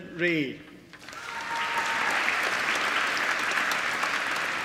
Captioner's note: applause